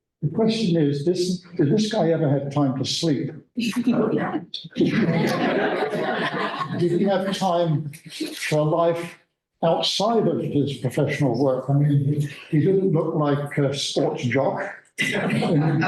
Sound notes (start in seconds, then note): 4.8 laughter